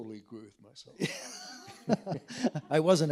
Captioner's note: all laughing